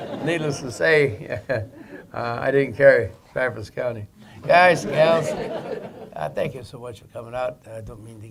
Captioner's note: laughter; laughter